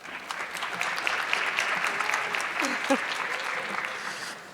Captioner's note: audience clapping